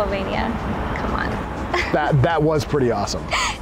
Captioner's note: chuckling